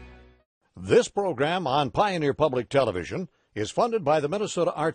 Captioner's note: voiceover